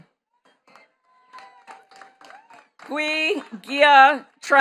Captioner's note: attendees cheering and clapping